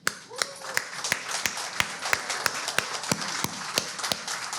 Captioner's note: audience claps